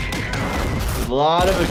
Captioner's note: building exploding